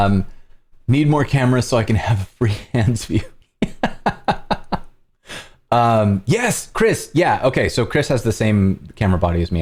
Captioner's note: laughter